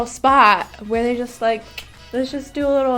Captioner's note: clicks